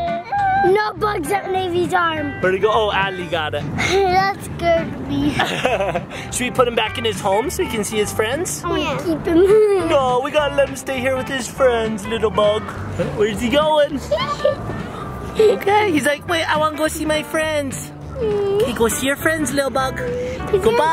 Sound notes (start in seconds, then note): 5.2 laughs; 9.2 laughs; 13.9 laughs